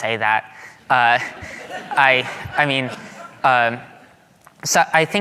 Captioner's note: audience laughing